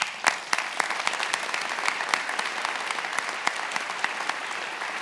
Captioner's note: attendees applauding